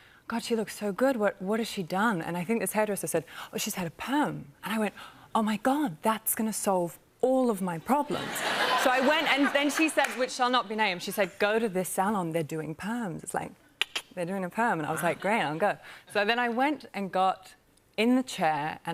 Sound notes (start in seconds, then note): 13.8 clicks tongue